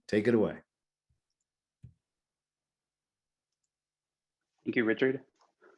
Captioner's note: mouse clicking